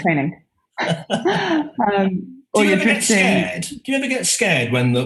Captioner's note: laughing